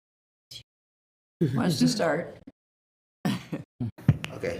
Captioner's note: laughs